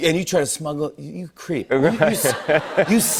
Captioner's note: laughter